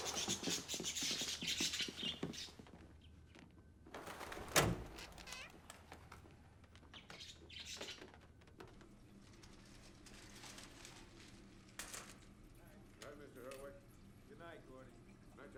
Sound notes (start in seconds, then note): 0.0 birds chirping; 4.4 door bangs